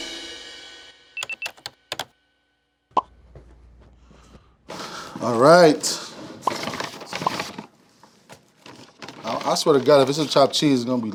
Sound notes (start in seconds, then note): 1.2 graphic beeping; 6.4 paper crinkling